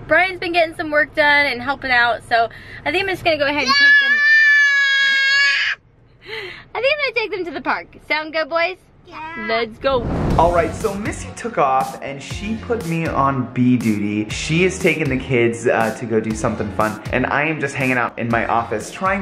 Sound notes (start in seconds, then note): 3.8 yelling